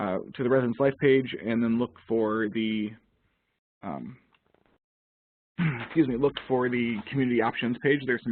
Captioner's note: coughs